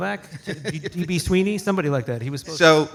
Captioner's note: light laughter